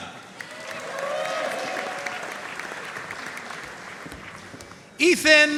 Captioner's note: audience cheering and applauding